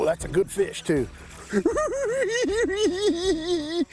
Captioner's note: cackling